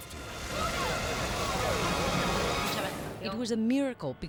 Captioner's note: people screaming